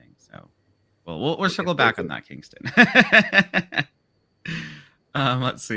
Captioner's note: laughs